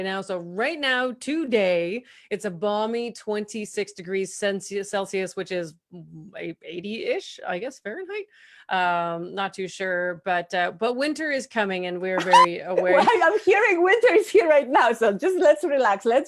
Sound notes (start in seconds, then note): 12.2 chuckles